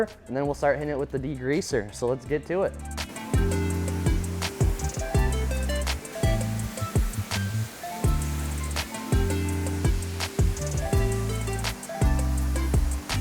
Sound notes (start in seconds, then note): 4.2 water spraying; 7.4 upbeat music